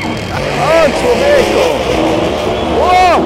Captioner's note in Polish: Dzikie ryki silnika